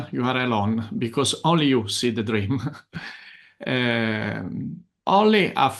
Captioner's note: chuckles